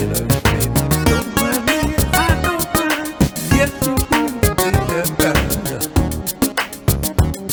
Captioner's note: attempts to vocalize